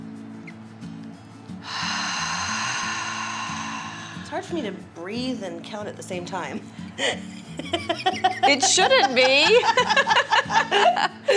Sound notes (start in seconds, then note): 1.6 exhale; 7.6 laughs